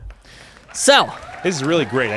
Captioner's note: audience cheering